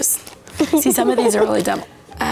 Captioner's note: children giggle